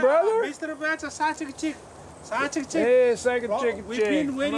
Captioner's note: Yapese spoken audio